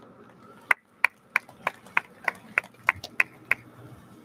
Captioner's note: audience lauds